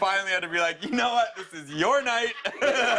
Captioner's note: laughter